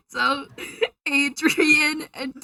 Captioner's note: inhale